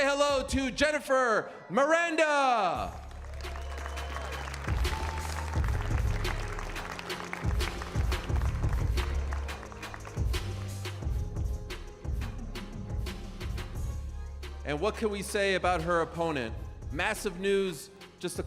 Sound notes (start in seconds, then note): 4.5 cheers and applause